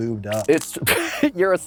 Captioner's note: laughs